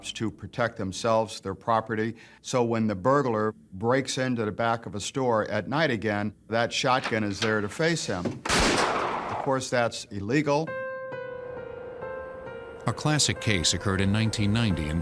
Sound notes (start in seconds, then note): 8.4 gunshot